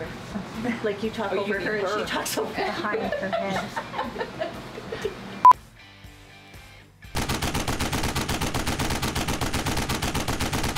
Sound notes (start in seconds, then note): 5.6 beep; 7.1 bullets rapidly firing